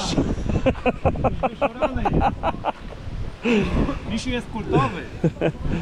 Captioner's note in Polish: śmiech